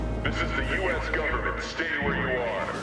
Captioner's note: loudspeaker